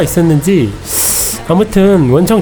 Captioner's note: tsk~